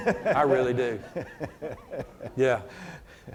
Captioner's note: laughs